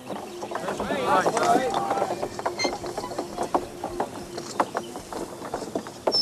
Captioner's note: wheels creak; soft chattering